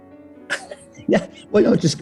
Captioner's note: giggling